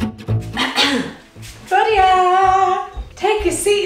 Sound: clears throat

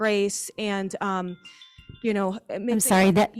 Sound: alarm chiming

